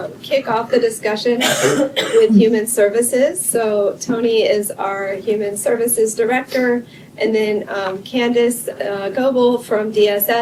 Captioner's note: cough